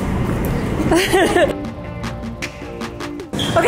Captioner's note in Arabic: تضحك; موسيقى سعيدة